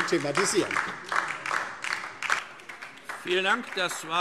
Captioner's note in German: Beifall DIE LINKE